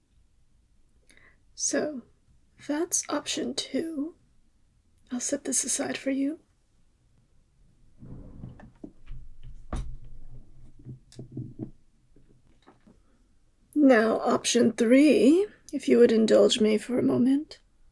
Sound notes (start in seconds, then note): 8.0 drawer sounds